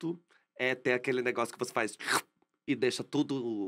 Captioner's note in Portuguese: som de sucção